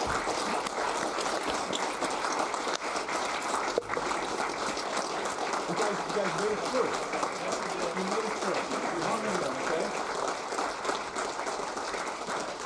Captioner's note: applause